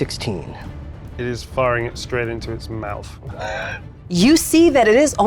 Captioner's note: laughs